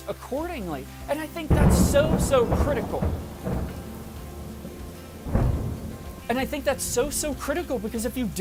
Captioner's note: thunder crashes